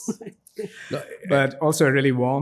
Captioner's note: giggles